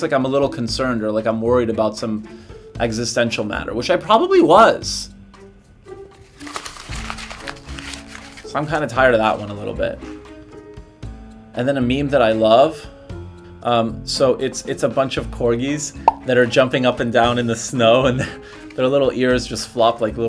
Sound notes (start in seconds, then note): 6.2 paper crumpling